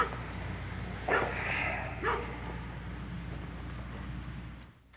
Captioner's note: Charles groans